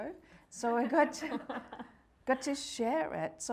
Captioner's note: everyone laughing